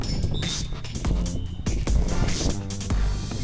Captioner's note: whistle blows